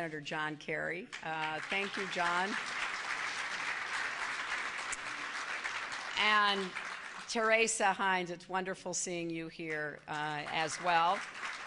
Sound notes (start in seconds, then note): 1.1 applause